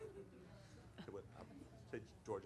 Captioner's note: laughter